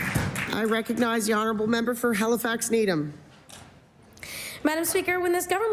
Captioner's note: applause